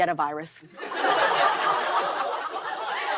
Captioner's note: laughter